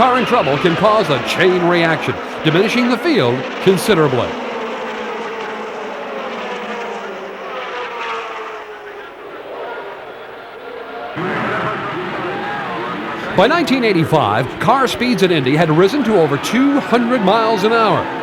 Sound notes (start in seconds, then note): 5.4 engines whine; 11.9 engines rev